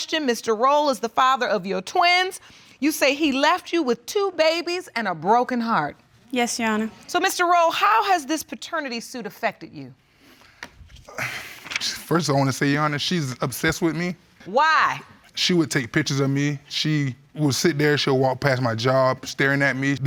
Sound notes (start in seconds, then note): 11.0 sighs